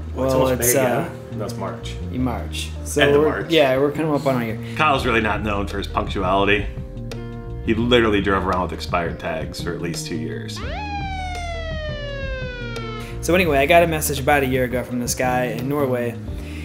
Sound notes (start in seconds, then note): 10.6 police siren